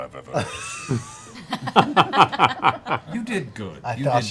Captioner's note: laughter